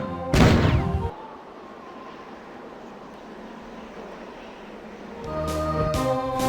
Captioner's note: pow; BOOSHx5; lonely howling of the wind